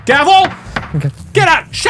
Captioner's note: gavel pounding